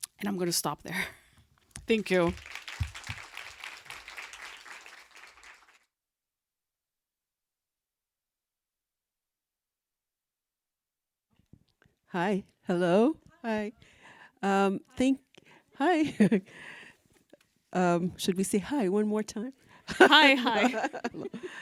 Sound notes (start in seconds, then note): 2.0 audience applauding; 16.7 chuckles; 19.9 laughs